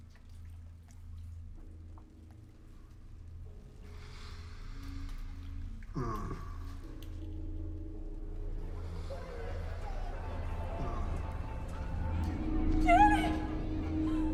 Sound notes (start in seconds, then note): 0.1 gentle tense music; 9.4 voices whispering